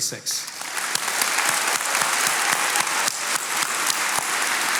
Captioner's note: attendees applauding